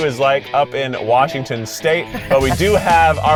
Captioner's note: laughs